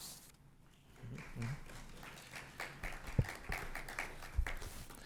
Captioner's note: applause